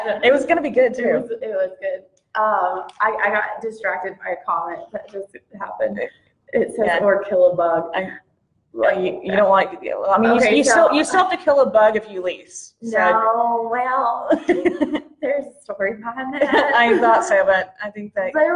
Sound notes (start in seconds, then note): 14.3 laughs